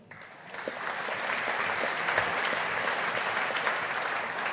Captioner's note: audience applauding